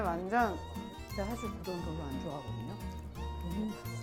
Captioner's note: whispering